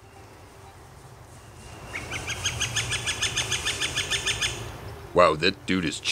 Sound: northern flicker calling

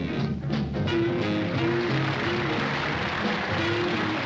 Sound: audience applauding

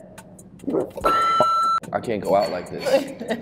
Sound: beep

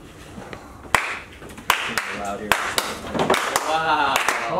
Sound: clapping

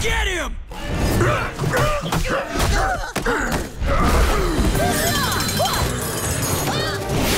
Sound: grunting

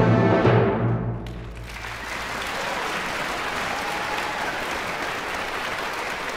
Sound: applause & cheers

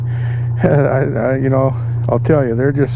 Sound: chuckling

